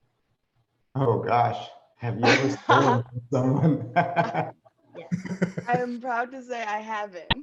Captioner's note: laughs